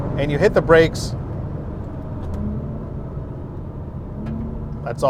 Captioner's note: engine revs